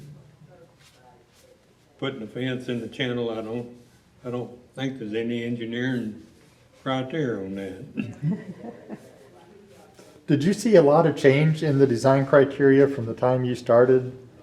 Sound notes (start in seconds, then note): 9.6 laughs